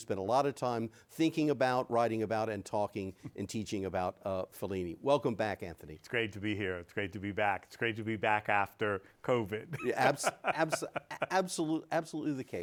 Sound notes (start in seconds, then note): 9.6 laughs